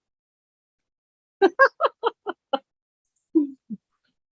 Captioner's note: laughing